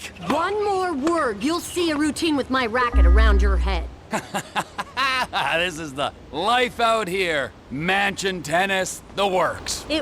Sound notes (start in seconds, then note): 4.1 Trever laughs